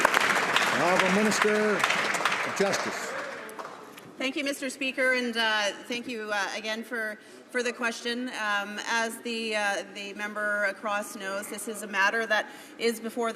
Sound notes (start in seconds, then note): 2.6 some Applause